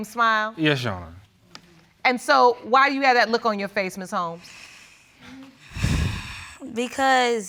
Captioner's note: sighing